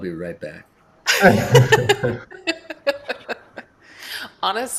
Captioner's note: laughter